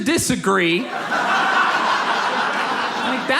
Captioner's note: audience laughs